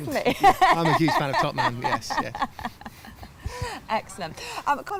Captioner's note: laughter